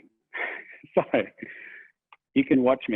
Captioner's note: laughs